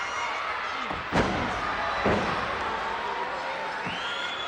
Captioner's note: knees thud; crowd cheering